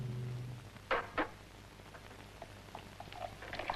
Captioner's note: soft clattering